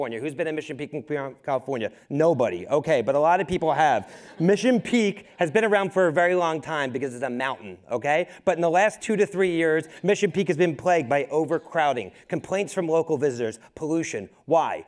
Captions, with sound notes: Who's been at Mission Peak in Fremont, California? Nobody, okay. But a lot of people have. (crowd laughing) Mission Peak has been around for a very long time because it's a mountain, okay? But in the last two to three years, Mission Peak has been plagued by overcrowding, complaints from local visitors, pollution, why?